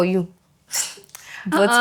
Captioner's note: laughs